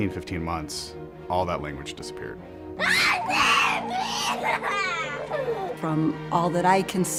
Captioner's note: child screaming and crying